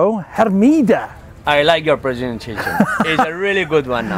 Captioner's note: laughing